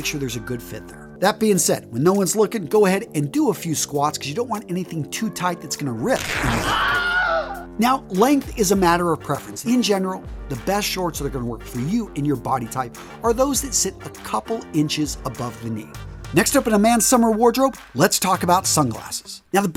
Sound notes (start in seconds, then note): 6.1 sound effect